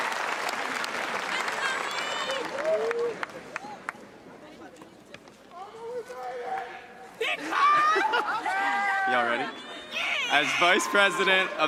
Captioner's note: cheers and applause